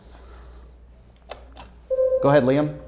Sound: buzzer sounds

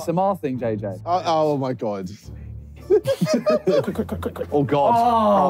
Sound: laughing

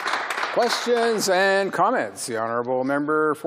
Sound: some Applause

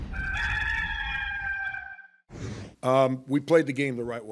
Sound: cock crows

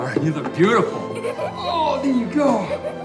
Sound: Palmyra laughing

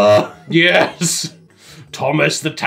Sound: laughs

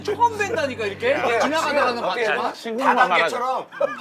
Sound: speaking passionately

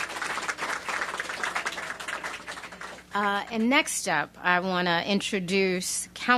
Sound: applause

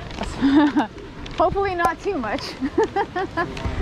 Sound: laughs

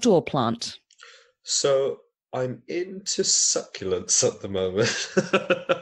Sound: laughs

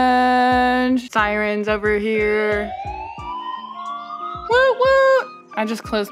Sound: siren noise in background

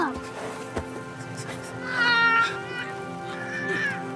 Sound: grunts

